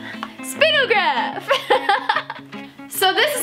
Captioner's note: laughs